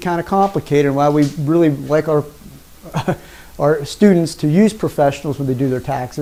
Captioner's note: chuckles